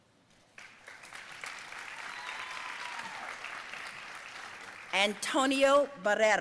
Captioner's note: audience cheering and applauding